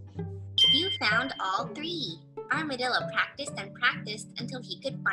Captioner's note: ding